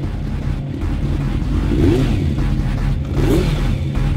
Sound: engine revving

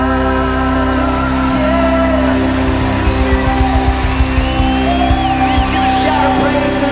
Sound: audience cheering

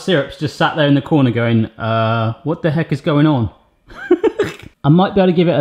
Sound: laughs

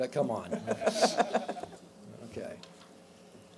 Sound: laughs

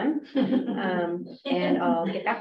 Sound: laughter

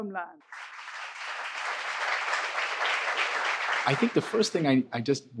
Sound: audience applauding

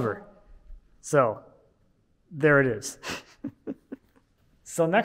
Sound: laughs

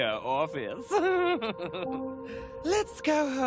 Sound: giggling

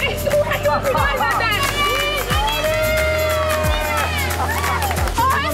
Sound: all cheering

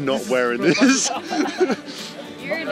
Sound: laughs

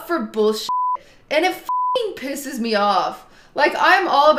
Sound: beep

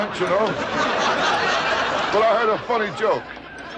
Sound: audience laughter

